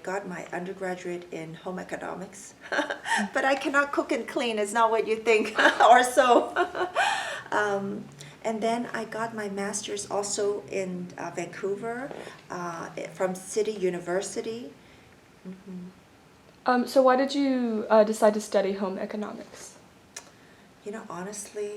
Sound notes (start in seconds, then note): 2.2 laughs; 6.1 laugh